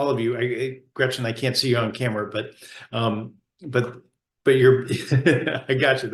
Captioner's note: laughs